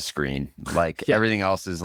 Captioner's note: laughs